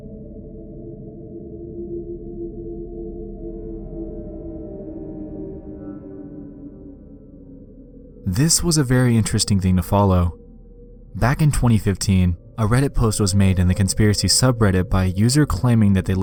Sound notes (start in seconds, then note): 0.6 distorted deep voice